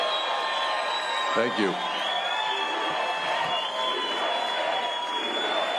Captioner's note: cheers and applause